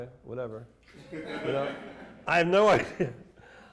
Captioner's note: laughter